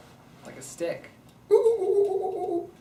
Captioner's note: makes monkey noises